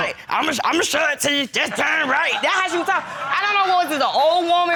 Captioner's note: deep voice